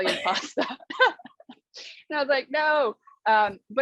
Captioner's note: laughter